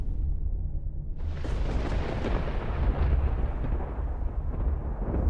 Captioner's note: thunder claps